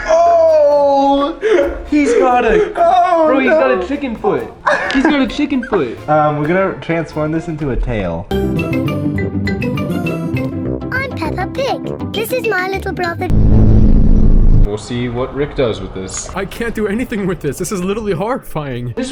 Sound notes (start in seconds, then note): 4.6 chuckles; 8.8 upbeat piano music; 13.3 vibrating sounds